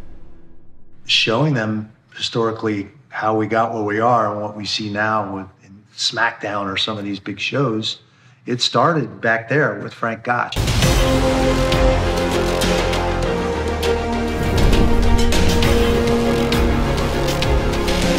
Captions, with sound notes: - Showing them historically how we got where we are and what we see now in Smack Down or some of these big shows. It started back there with Frank Gotch. (intense music continues) (fire burning)